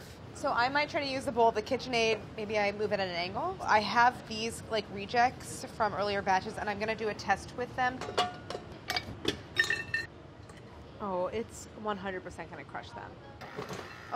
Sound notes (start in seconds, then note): 7.9 clinking